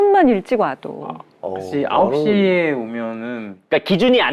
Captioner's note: wary